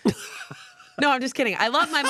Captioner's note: laughs